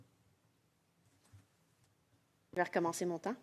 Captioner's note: speaking French